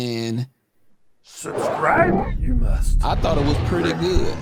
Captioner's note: cartoonish Voice